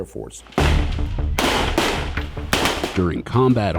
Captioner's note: gunshots